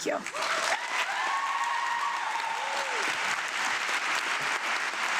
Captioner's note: audience applauding